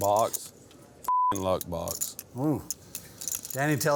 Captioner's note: beep